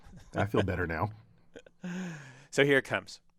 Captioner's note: laugh